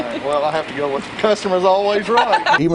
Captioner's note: laughing